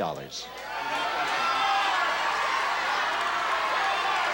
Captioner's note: audience cheers